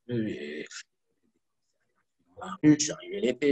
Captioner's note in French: coupure audio